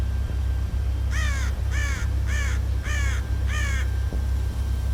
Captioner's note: bird caws